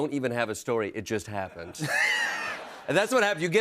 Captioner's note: laughs